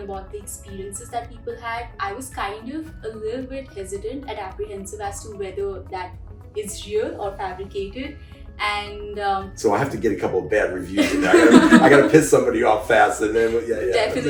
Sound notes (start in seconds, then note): 11.0 laughs